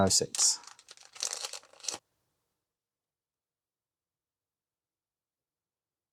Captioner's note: silence